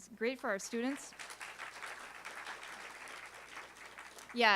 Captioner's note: applause